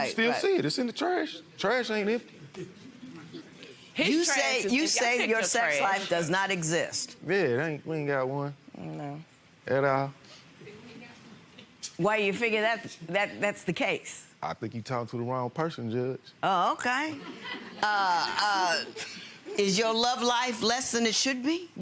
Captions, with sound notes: You can still see it. It's in the trash. Trash ain't it. - You say your sex life does not exist. - Yeah, we ain't got one at all. - Why do you figure that's the case? - Oh, okay. (audience chuckles) Is your love life less than it should be?